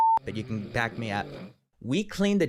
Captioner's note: snoring